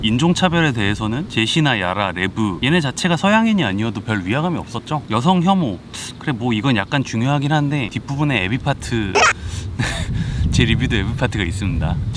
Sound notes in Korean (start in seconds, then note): 9.7 웃음